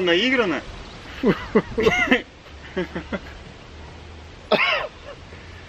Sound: laugh

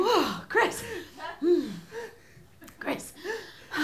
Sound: quietly hyperventilates

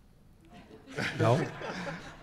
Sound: laughing

